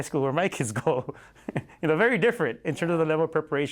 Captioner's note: laughter